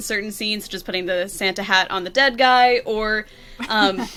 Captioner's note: laughs